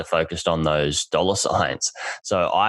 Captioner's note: laughs